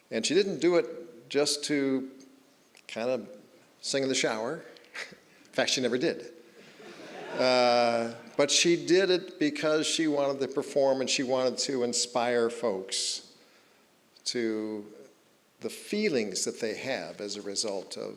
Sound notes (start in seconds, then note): 6.6 audience chuckling; 6.6 chuckling